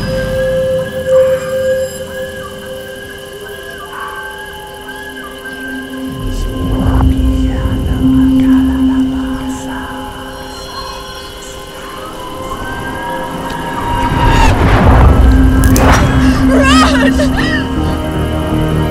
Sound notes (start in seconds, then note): 8.0 ghostly whispers